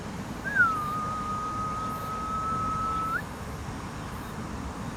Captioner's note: whistle